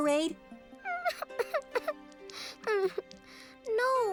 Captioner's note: cries